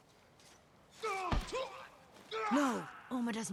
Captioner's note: screams